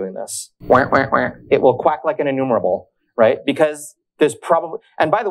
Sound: quacks

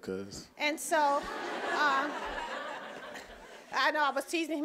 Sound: audience laughing

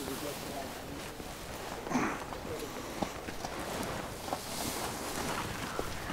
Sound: hay rustling

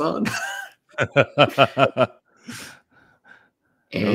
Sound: laughter

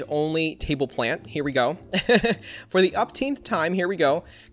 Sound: laughs

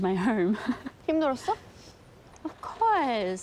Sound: laughs; speaks in foreign language

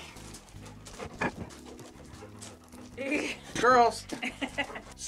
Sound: dog panting

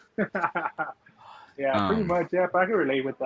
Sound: laughing

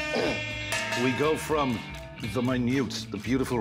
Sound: buzzer sounds; cowbell clangs

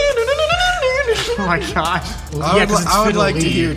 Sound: sings fiddle sounds

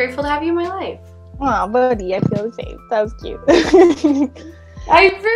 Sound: laughs

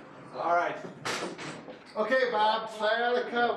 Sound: thud noises

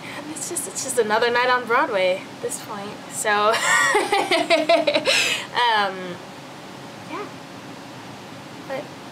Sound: laughs

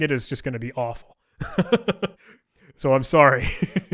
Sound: laughing

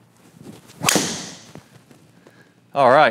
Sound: golf ball snaps

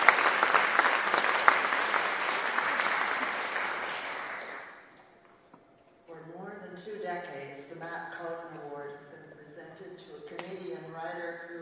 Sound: applause

